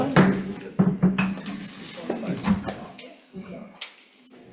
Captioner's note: gavel banging